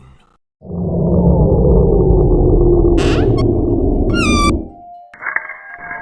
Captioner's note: power drops